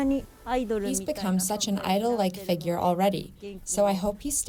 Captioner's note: through translator